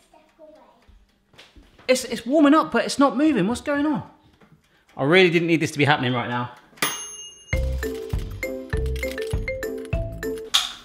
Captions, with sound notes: It's warming up but it's not moving what's going on? I really didn't need this to be happening right now. (timer dings) (upbeat music)